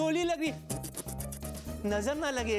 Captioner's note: spitting